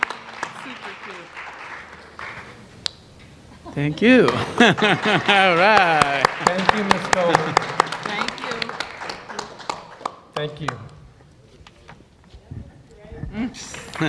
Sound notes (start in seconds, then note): 0.9 applause